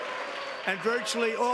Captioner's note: applause; cheering